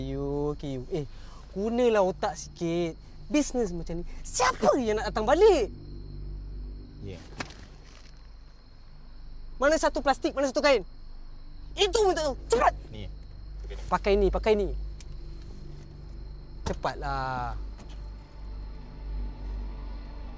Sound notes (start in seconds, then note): 1.3 in Bahasa Melayu; 9.3 in Bahasa Melayu